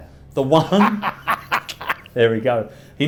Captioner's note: laughs